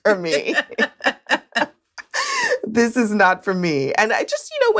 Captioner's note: laughs